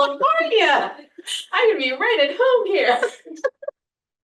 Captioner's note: laughter